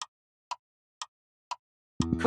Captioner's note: clock Ticking